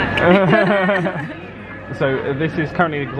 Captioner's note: both laugh